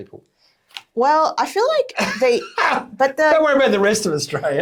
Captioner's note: chuckling